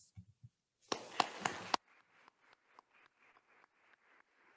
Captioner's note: attendees applauding